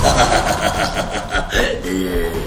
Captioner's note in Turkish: gülme sesi̇